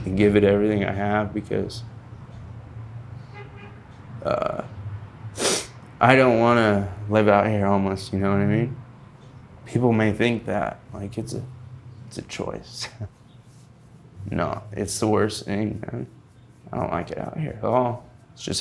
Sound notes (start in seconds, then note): 5.3 snuffling; 12.7 laughing